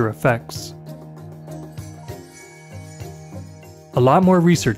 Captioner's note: light chimes